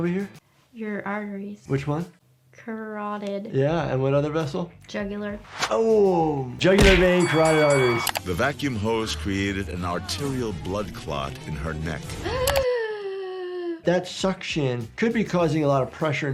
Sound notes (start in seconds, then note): 6.8 bell ringing; 12.2 gasping